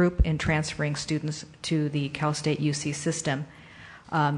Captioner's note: none